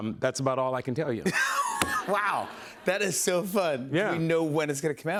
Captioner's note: laughter